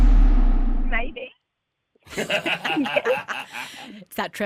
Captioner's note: laughter